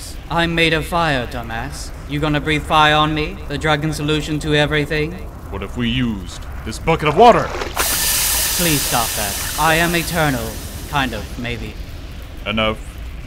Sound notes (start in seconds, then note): 7.6 sizzling sfx